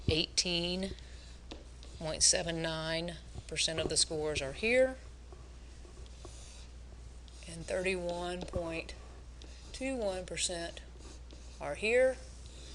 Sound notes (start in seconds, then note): 6.1 pen scratching